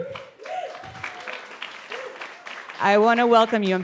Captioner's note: audience applauding and whooping